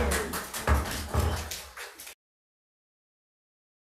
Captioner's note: audience cheering; gavel pounding